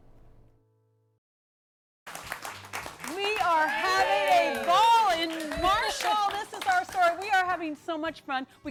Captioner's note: �applause�